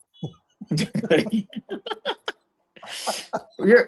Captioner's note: laughter